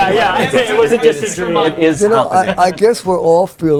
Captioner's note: all chattering